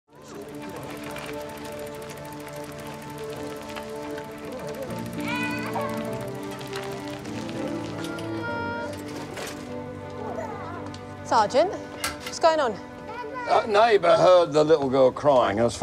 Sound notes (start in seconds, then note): 0.6 gentle music; 5.2 child crying